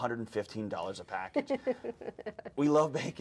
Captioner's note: host laughs